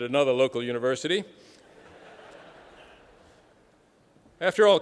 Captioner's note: laughter